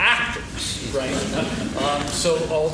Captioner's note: laughing